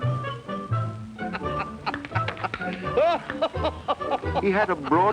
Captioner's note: jolly laughing